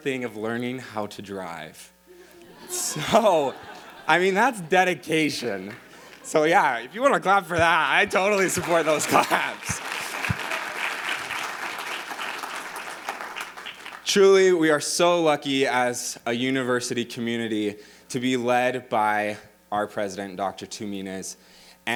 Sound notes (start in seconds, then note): 2.3 audience laughing; 9.9 audience applauding